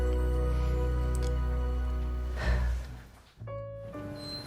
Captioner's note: sighs